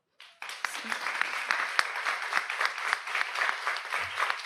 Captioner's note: audience applauds